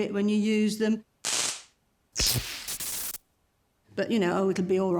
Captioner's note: zapping